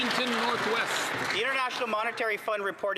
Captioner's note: cheering and Applause